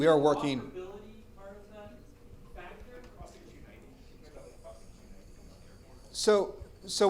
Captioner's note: speaks faintly